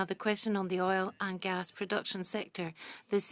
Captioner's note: speaking French